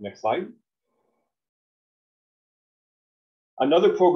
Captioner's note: silence